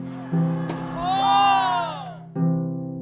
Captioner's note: cheering